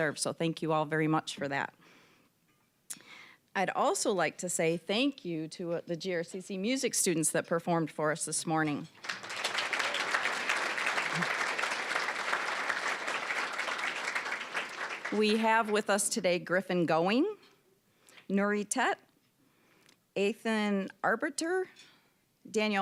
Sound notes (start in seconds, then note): 8.9 applause